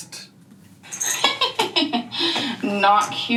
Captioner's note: laughing